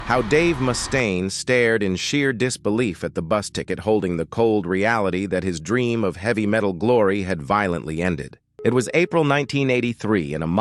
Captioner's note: SFX: bus engine idling